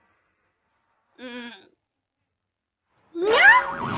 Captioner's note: Jibanyan grunts